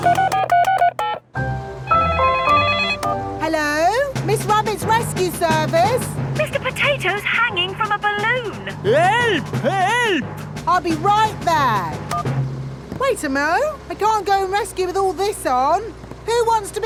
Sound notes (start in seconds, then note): 0.0 beeping; 2.1 phone ringing